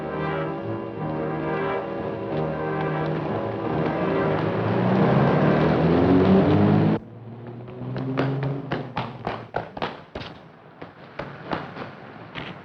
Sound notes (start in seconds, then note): 5.2 car engine revving